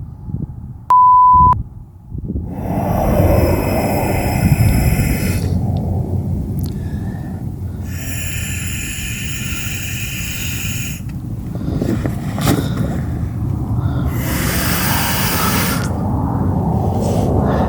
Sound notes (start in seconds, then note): 0.9 beep; 2.4 breath whooshing; 11.9 inflatable flopping; 13.6 breath whooshing